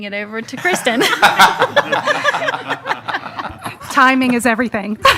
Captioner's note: all laughing